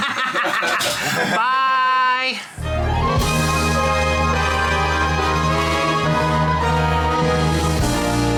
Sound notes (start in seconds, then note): 0.0 laughs; 2.6 upbeat music